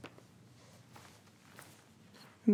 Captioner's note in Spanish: silencio